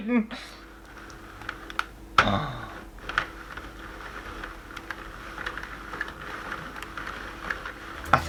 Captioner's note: handle Turning